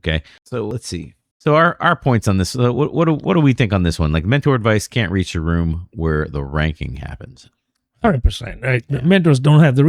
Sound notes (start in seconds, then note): 8.1 uh